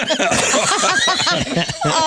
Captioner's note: laughter